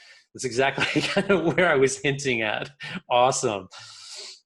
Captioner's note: chuckles